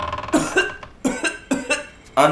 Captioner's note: severe cough